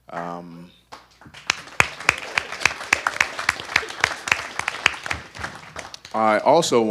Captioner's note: audience applause